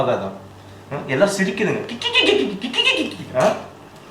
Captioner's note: mocks their laughter